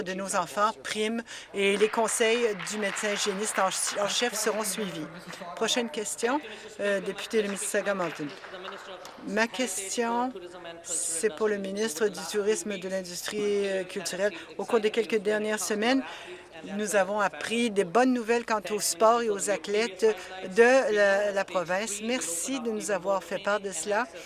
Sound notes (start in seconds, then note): 7.2 applause